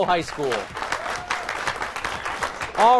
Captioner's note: applause